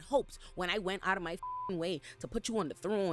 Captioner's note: beep